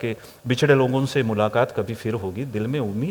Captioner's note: reciting hindi poem